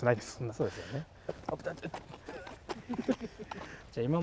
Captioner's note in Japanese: スタッフが躓く音